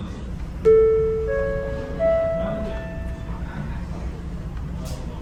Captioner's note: chime sound of the onboard announcement